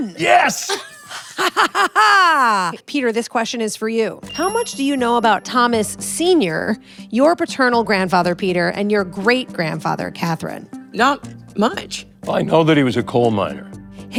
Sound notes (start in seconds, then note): 0.1 laughs; 0.6 Kathryn laughs